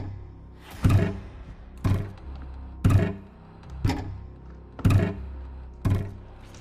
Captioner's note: soft tense music; object thudding rhythmically